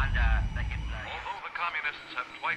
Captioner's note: radio interference